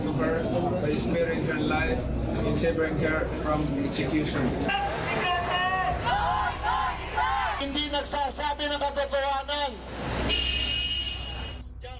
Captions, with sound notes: to her by sparing her life and saving her from execution. (protestors speaking in foreign language)